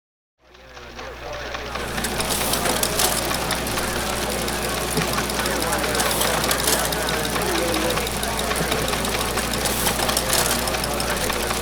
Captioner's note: squawking walkie talkie, teletype and sound of photocopy machine